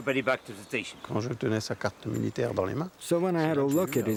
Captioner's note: speaks in foreign language